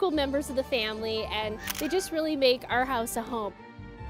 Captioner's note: shutter clicks